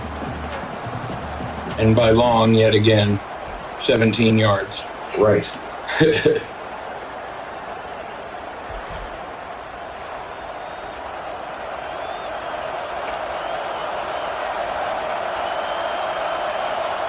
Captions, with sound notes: And by long, yet again, 17 yards. Right. [CHUCKLES]